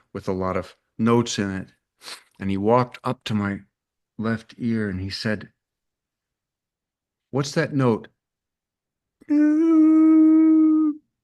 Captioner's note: hums a pitch